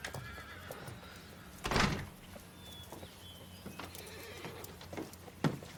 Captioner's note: Caitlin shutting the door